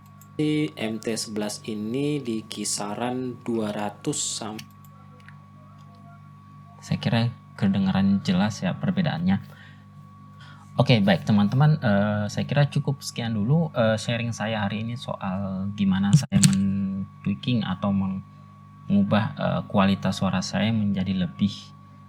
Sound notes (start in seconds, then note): 16.1 mic interrupted